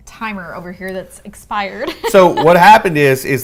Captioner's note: laughs